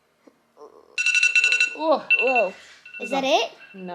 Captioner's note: alarm sounds